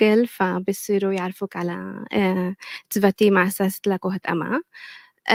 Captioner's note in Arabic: لغة أجنبية; لغة أجنبية